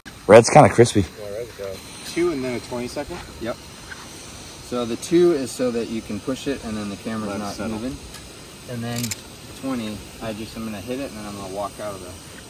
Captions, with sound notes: Red's kinda crispy 2 and then a 20-second? Yup So the 2 is so you can push it [shutter] And then the camera is not moving And then 20 I'm just got hit it and walk out of it